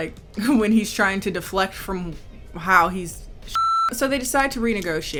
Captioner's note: beep